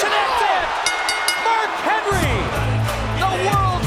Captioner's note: bell dings